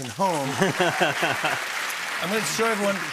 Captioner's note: cheers and applause